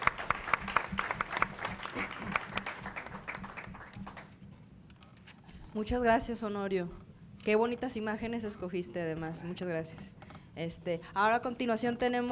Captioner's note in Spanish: Aplausos